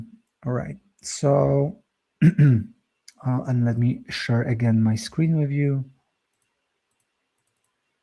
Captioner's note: clears throat